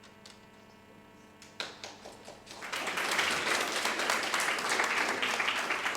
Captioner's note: audience applauding